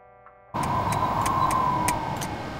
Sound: frantic clicking

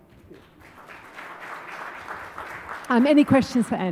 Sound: applause

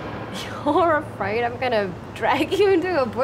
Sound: chuckles

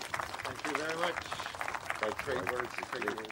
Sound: applause

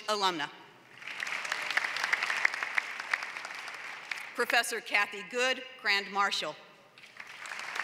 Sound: applause; applause

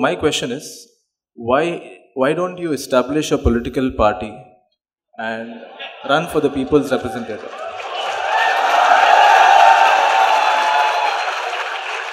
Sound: laughter; cheers/Applause

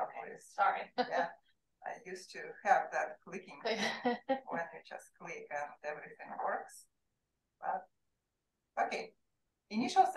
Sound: chatter

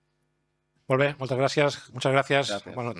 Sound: speaking spanish

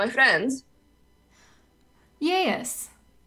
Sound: medium Appalachian accent

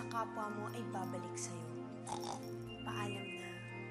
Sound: snorts

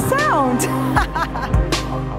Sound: laughs

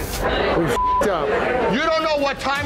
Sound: beeping

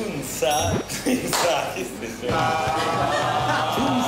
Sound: sounds like an alien language

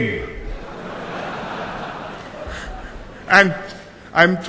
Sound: laughter

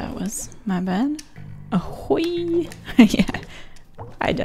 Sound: laughs

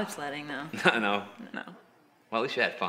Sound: laughs

